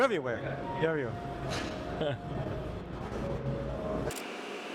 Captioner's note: chuckles; camera clicks